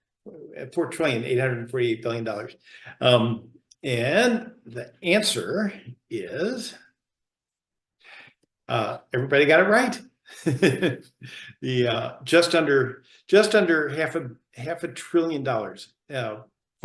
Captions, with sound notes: And the answer is, everybody got it right. (laughs) Just under half a trillion dollars,